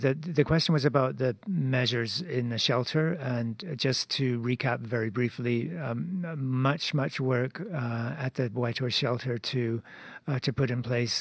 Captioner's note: speaking French